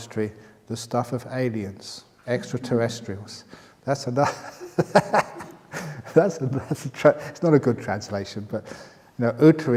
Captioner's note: laughter